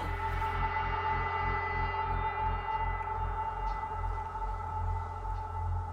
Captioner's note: none